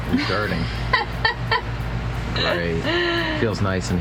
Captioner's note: laughing